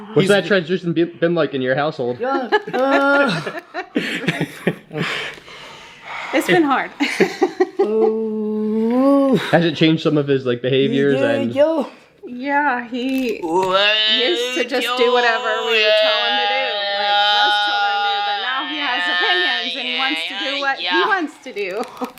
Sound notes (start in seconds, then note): 2.2 parents laughing